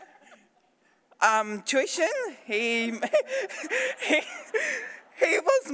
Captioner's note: laughs